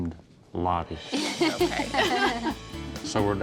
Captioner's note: laughter